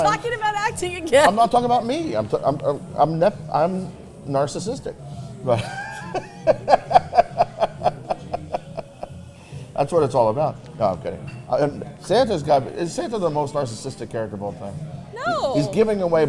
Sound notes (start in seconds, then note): 4.0 stutters; 5.5 Santa laughing